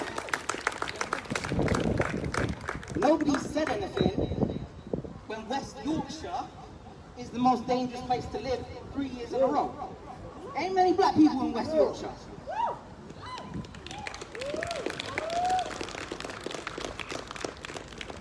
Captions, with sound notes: [Applause] Nobody said anything, when West Yorkshire is the most dangerous place to live, 3 years in a row. Ain’t many black people in West Yorkshire! [Whooping] [Applause]